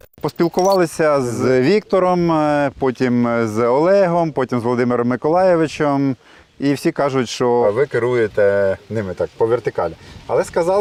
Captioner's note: speaks ukranian